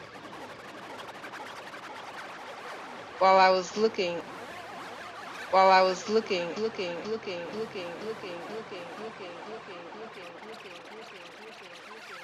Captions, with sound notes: While I was looking... While I was looking, looking, looking, looking, looking, looking, looking (echoes).